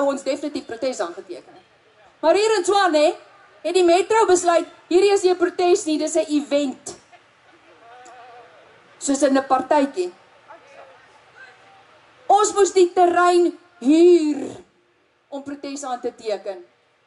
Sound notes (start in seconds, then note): 7.4 laughing